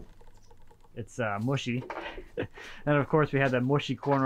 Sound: chuckles

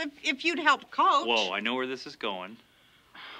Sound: sighs

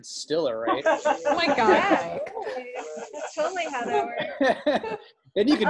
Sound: laughter

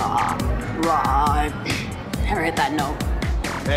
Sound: clearing throat

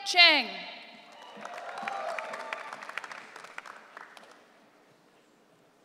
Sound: audience cheering

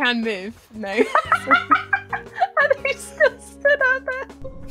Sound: laughs

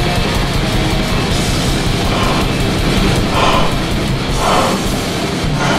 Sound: deep exhaling; crowd noise builds

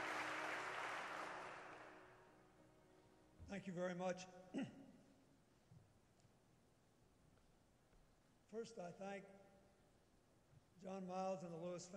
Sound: applause

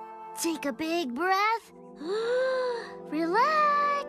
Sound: inhales

